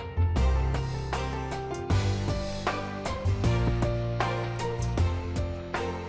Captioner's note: gavel